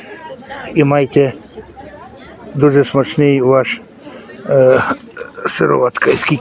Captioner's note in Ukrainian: прочищення горла